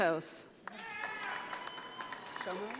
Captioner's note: audience applauding